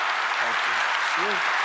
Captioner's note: cheering